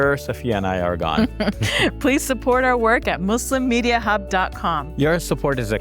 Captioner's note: laughs